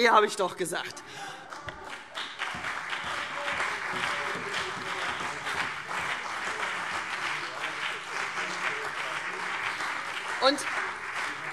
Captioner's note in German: Beifall CDU und BÜNDNIS 90/DIE GRÜNEN